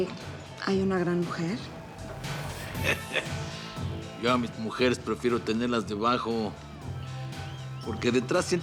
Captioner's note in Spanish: él ríe